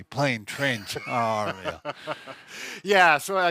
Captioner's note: laughing